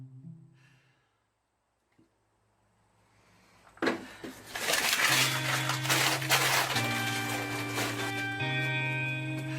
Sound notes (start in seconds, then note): 1.0 Brooke sighing; 4.6 melancholic music